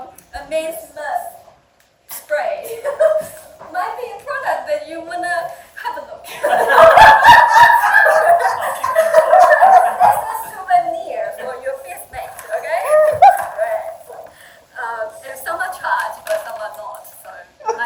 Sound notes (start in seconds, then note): 6.4 audience laughing